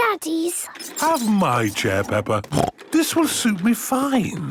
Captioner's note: snorting